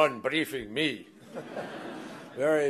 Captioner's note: laughter